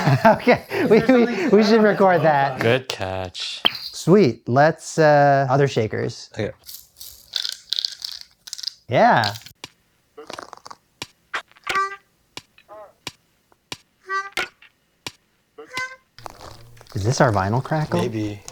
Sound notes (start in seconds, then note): 3.6 suction cup pop